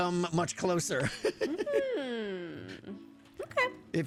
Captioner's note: laughs